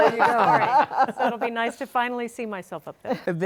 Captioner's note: all laughing